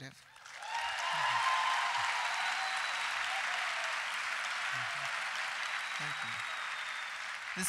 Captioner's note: applause